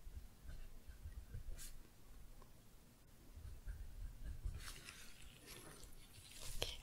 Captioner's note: writing, glove sounds